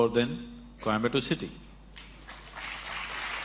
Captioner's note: applause